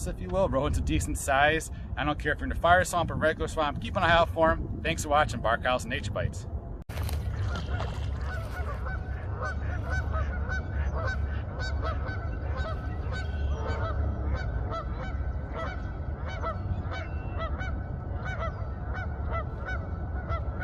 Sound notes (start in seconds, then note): 11.1 geese calling in distance; 17.2 birds chirping